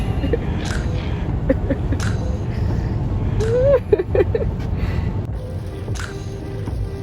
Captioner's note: laughing